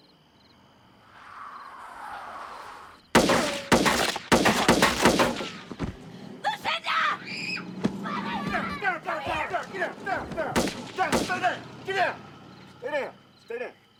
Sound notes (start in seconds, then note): 7.0 engine revving; 10.4 gun firing